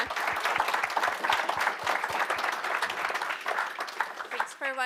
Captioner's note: audience applauding